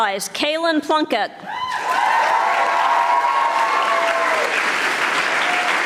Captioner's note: audience applauding